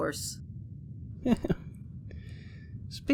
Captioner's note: Vito laughs